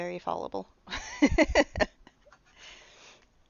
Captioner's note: laughing